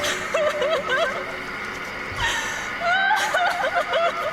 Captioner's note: crying